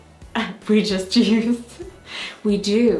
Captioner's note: laughs